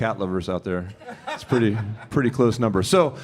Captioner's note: audience member laughs